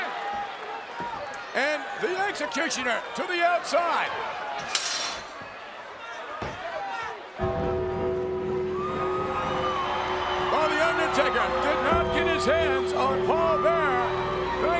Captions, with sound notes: And The Executioner to the outside. (metal clanging) (ominous music) (audience cheering) Well, The Undertaker did not get his hands on Paul Bearer